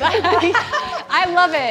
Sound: laughter

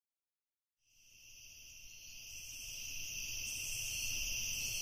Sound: crickets chirping

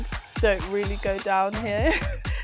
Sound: laughs

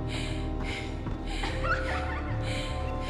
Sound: laughter

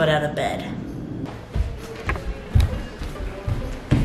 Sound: footsteps

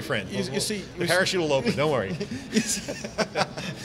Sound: murmurs; all laughing

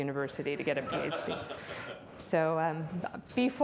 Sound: audience laughs

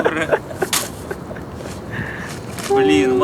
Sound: laughs

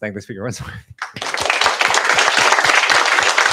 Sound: applause

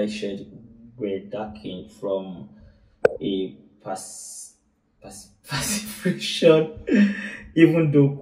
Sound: laughs

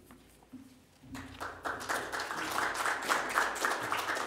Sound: applause

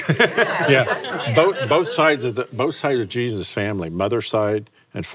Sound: laughs

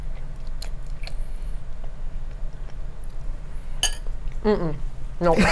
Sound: Safiya chews loudly

